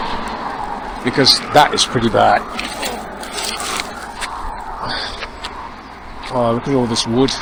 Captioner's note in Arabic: أصوات حركة المرور